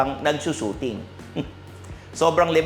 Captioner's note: chuckles